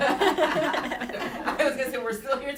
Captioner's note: laughter